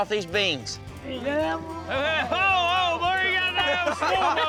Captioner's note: all laughing, chatting